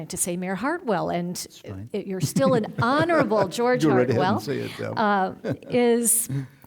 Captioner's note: chuckling